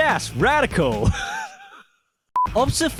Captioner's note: wheezes